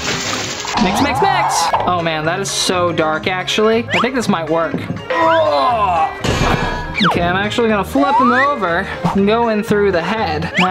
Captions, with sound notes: Mix, mix, mix. Oh man, that is so dark actually. I think this might work. (gags) Okay, I'm actually gonna flip him over, and go in through the head,